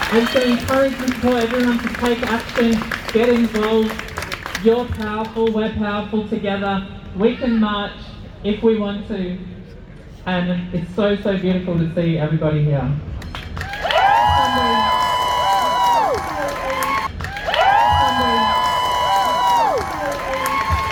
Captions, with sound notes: [loud cheers] and encouraging everyone to take action get involved you're powerful we're powerful together we can march if we want to and it's so so beautiful to see everybody here! [big cheer]